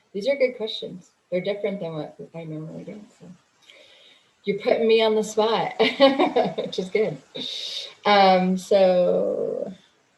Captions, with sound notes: These are good questions. They're different than what we kinda wanna do, so. You put me on the spot. [laughs] Which is good. So-